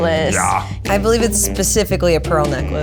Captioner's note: in puppet voice